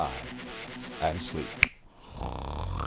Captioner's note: snap!